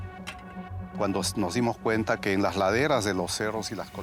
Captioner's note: speaking Spanish